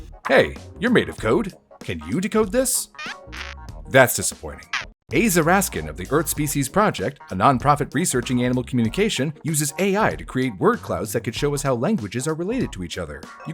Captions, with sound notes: Hey, you’re made of code! Can you decode this? [C-GAL BEEPS NEGATIVELY] That’s disappointing... [C-GAL AGITATED BEEP] Aza Raskin of the Earth Species Project, a non-profit researching animal communication uses AI to create word clouds that can show us how languages are related to each other.